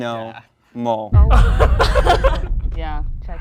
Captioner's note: laughter